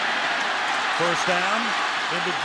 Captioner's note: cheering